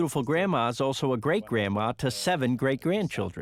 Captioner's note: speaking Italian